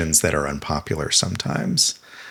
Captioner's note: none